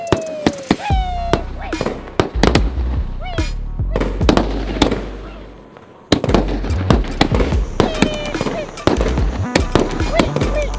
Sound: flashy Crackling sound; crackling sound

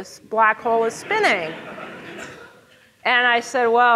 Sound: audience laughing

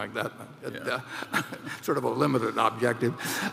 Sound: laughs

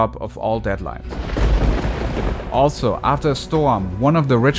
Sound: thunder rumbling

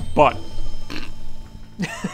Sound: snickers

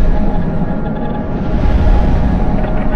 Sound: whoosh

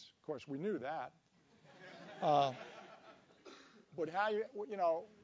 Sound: laugh

